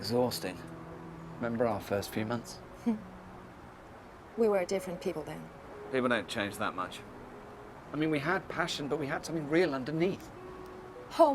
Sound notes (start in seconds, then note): 3.0 chuckling